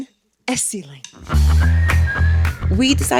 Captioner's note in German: Leichte Musik; Musiker pfeift